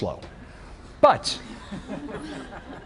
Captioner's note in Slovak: Smiech